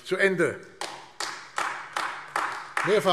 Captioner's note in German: Beifall AfD